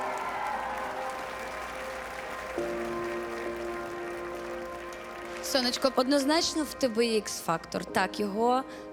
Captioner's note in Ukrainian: оплески